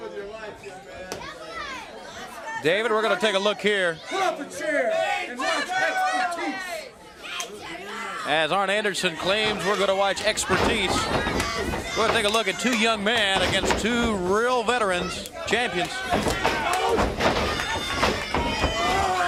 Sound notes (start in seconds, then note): 12.9 crowd cheering